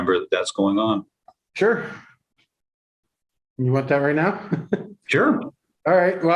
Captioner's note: laughter